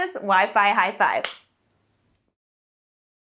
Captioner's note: hands slap